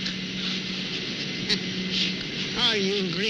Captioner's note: laughing